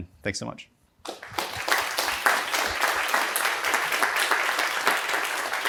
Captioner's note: applause